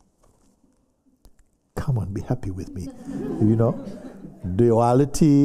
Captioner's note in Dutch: gelach